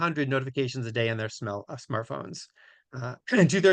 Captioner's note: clears throat